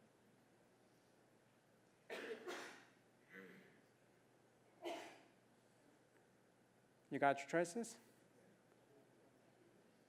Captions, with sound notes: [COUGH] [COUGH] >> You got your choices?